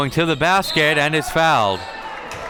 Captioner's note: whistle blows; audience cheering